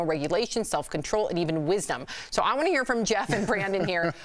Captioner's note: laughter